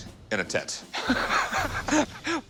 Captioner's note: both laugh